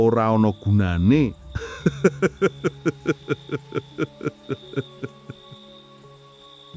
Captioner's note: laughs